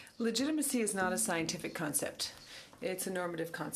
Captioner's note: speaking French